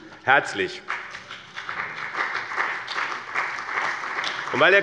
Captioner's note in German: Beifall bei dem BÜNDNIS 90/DIE GRÜNEN und der CDU